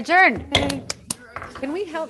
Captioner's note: woman claps